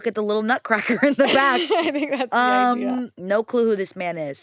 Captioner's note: laughs